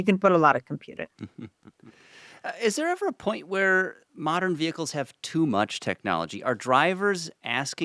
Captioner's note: chuckles